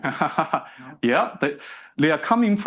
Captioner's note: instructor laughs